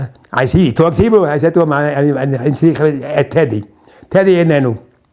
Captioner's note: in Hebrew